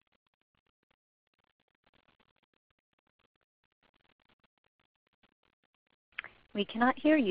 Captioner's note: silence